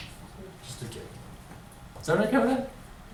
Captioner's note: voiceover